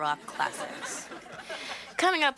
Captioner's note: audience laughing